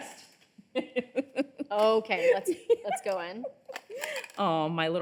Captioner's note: laughing